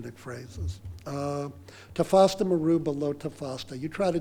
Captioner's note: speaking foreign language